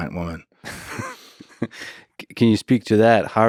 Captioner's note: Lex laughs